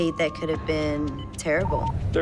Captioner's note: beeping